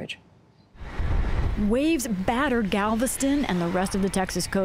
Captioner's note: voice-over